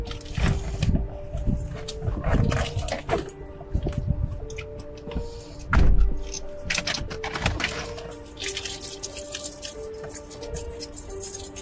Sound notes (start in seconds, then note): 1.5 keys jingling; 5.7 car door slamming